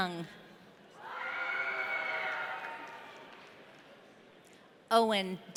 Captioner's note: audience cheering